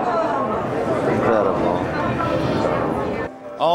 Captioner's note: crowd murmuring